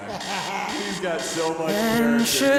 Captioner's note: alarm clock beeps